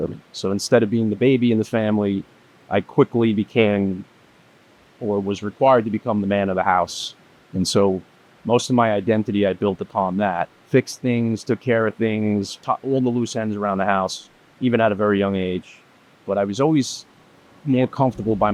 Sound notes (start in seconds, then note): none